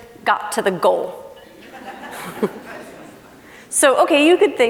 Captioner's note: laughing